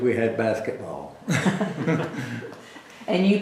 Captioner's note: laughter